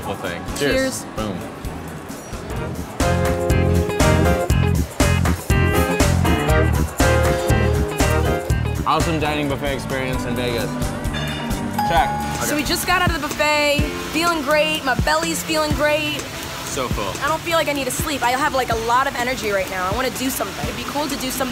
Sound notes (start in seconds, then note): 2.8 funky jazz music; 9.8 ping